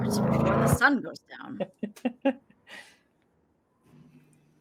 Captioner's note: laughing